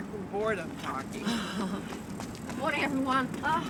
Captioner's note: laughs